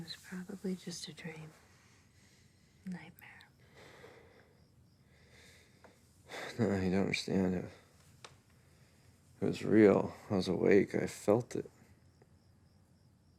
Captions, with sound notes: - It was probably just a dream, a nightmare. - (sighs) No, you don't understand it, it was real. I was awake, I felt it.